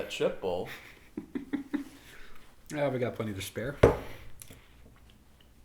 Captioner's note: John Chuckles